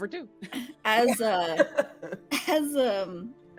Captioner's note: laughing